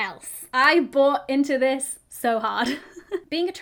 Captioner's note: giggles